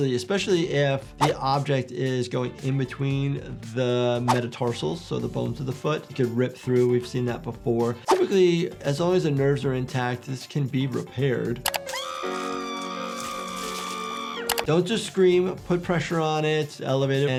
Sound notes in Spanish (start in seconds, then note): 11.8 Flaky grita